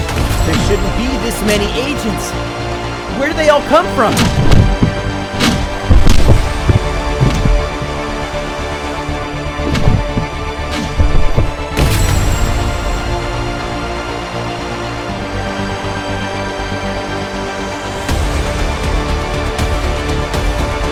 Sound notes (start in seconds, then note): 0.0 gunshot blasting; 4.6 dramatic music; 10.9 gunshot blasting; 14.0 dramatic music